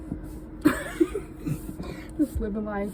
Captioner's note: chuckling